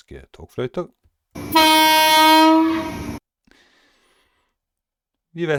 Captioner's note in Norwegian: Lyden av japansk togfløyte